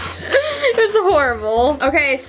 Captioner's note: laughing